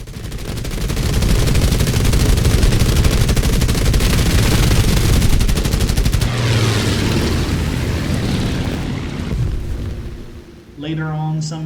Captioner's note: engines, machine guns, flying sounds